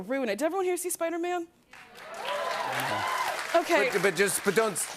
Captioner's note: cheers and applause